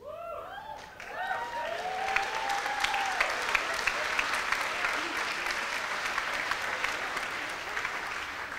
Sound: audience applauds

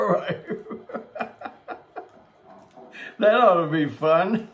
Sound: laughs

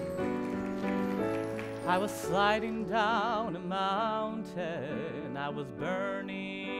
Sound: applause

